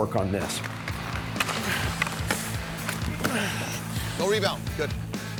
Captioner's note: grunting